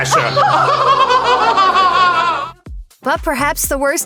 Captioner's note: laughter